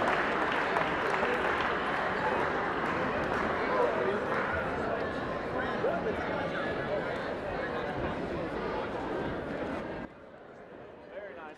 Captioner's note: people talking